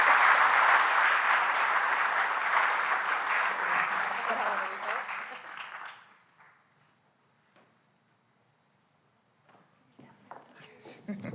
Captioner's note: applause